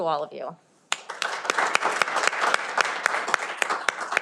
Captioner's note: cheering